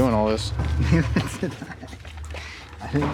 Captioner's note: laughs